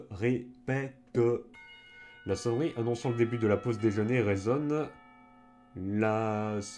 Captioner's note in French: Sonnerie de l'école